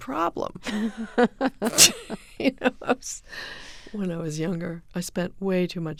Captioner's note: soundbite of laughter